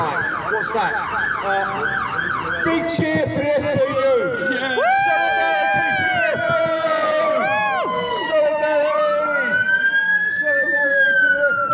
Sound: fire engine siren; crowd cheers; whooping, sirens

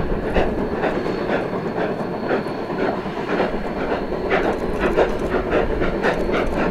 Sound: steady locomotive chugging

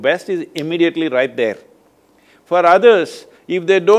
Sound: clicks fingers

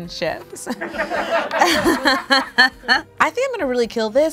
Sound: people offstage laugh

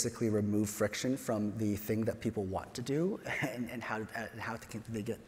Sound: chuckles

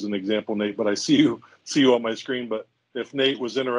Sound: chuckles

